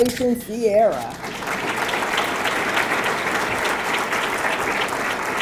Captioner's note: audience clapping